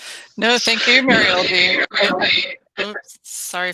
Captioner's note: radio interference